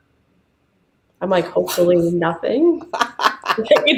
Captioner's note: laughing